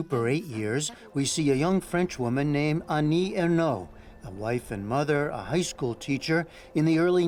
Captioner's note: speaking french